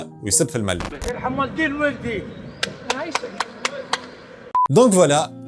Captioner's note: clapping